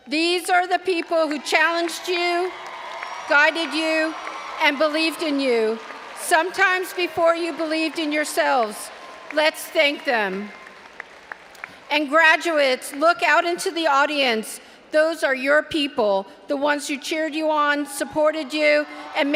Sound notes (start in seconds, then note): 10.3 all applauding and cheering